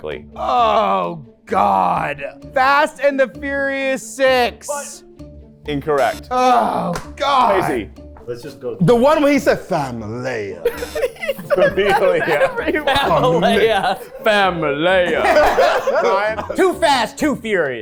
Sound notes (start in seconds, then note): 10.6 everyone laughing